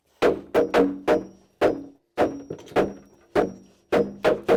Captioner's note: hammering